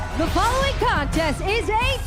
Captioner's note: bell ringing